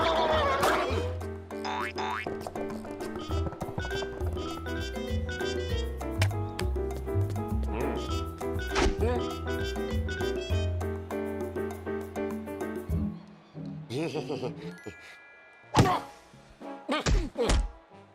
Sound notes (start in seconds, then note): 13.9 sheepish laugh; 16.8 grunting